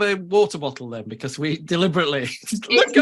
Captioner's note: all laughing